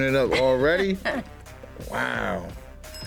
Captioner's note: laughs